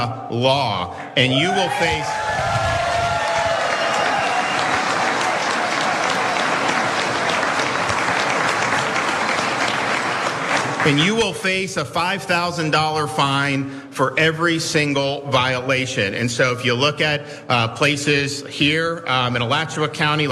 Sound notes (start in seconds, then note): 7.4 applause